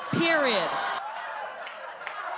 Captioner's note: laughter